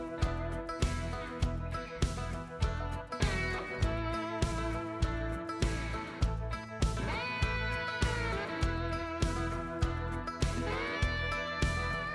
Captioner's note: footsteps